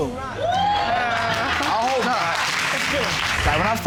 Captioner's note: audience cheers and applauds